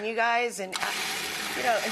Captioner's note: blender whirs